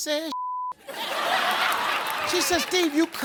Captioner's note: audience laughs